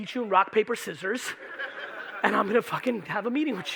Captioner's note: audience laughing